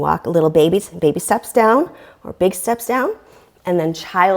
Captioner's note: deep breathing sounds